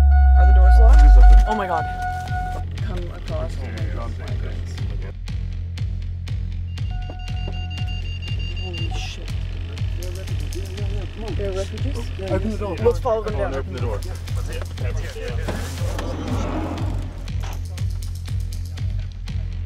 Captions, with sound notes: Are the doors locked? He has a weapon. Oh my god.... [Car beeping sound] Holy shit. Are they refugees? Look over there. Get away from the door. [van door sliding sound]